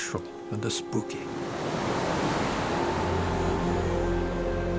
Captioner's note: water crashing